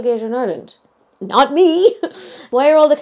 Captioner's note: chuckling